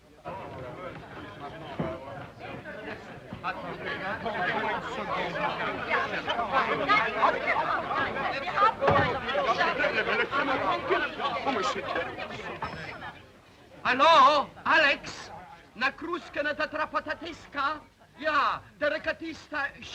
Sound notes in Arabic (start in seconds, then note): 0.1 الضيوف يتذمرون بغضب; 4.2 الضيوف يصرخون بغضب; 15.9 بوريس يتحدث بلغة أجنبية